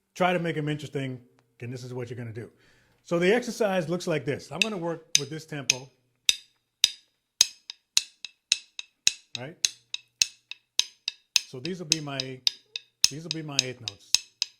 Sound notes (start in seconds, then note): 7.4 banging